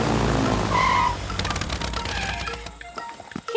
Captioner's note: tires screeching